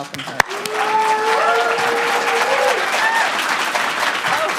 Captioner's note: audience applauding